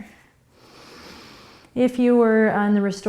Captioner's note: inhaling